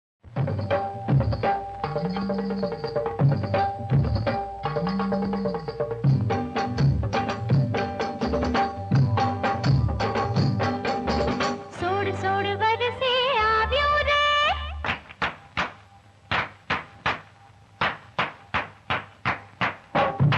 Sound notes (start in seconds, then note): 14.8 claps